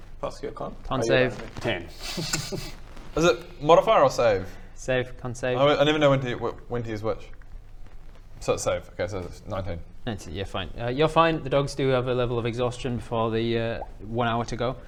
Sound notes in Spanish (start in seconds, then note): 2.0 risa irónica